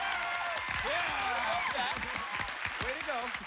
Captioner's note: cheers and applause